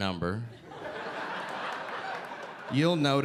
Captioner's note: audience laughing